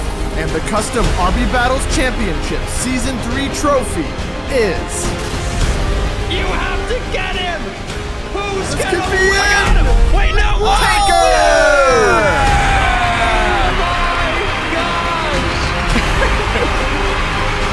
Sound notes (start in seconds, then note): 12.1 crowd cheering and clapping; 15.6 chuckling